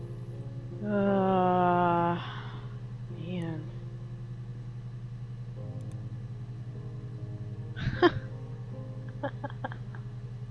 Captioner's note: laughs